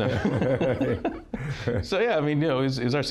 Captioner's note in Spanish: Risa jovial